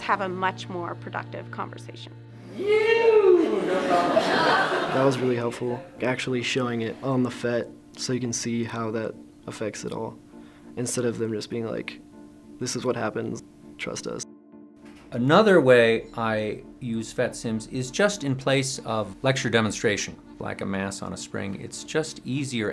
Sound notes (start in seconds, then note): 3.2 class laughing